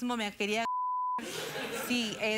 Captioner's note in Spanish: risas